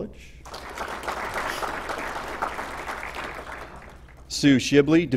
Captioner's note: applause